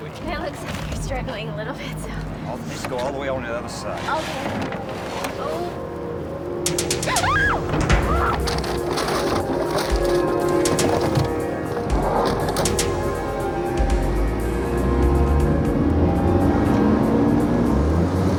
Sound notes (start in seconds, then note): 7.1 muffled scream